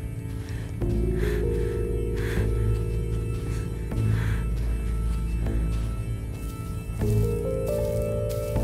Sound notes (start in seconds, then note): 0.0 footsteps pattering; 0.2 Quinn panting